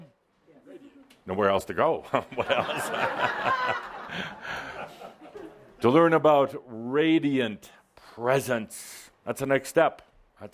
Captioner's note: laughter